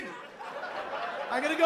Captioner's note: laughter